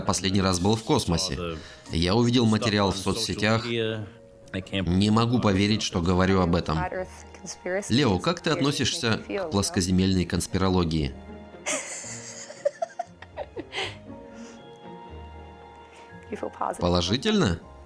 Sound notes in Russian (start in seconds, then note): 11.6 смеется